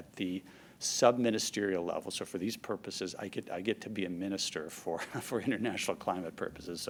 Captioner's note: laughs